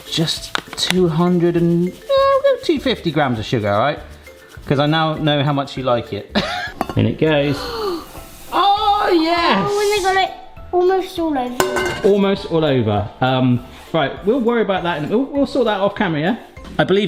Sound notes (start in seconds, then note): 6.3 chuckles; 7.4 gasps